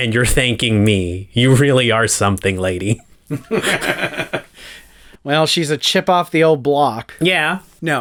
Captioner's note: laugh